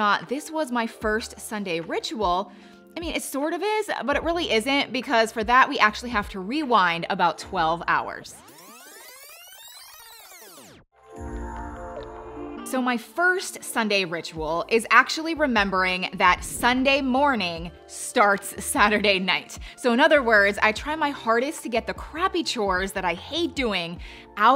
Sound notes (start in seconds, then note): 8.4 tape rewinding; 11.2 light music